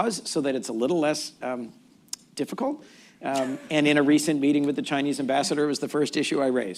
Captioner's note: laughter